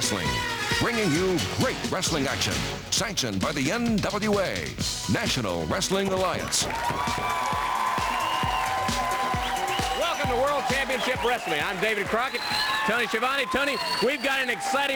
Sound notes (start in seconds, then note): 11.1 crowd cheering